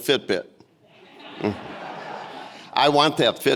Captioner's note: audience laughing